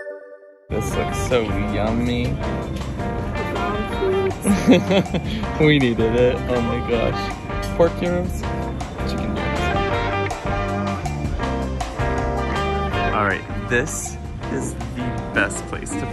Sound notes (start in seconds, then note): 0.2 logo beeping; 4.4 laughs; 10.0 upbeat music continues